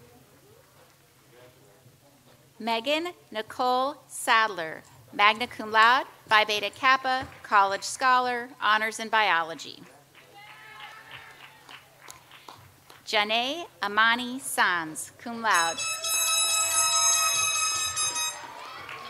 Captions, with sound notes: Meghan Nicole Sadler, Magna Cum Laude, Phi Beta Kappa, College Scholar, Honors in Biology. (audience applauds) Jahnai' Imani Sands, Cum Laude. (audience cheers)